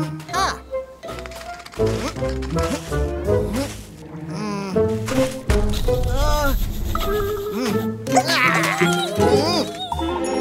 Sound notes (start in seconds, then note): 1.8 sound of sand; 8.2 grumbling